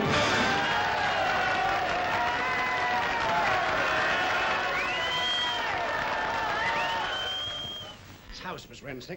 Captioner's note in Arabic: هتاف وتصفيق